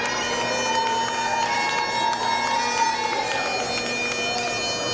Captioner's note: cheers and applause